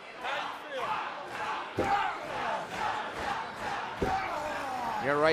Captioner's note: fans chanting